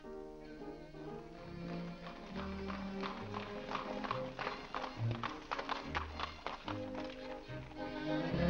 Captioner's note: piano plays; hooves trotting; ballroom music